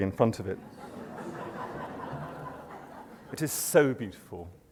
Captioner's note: laughter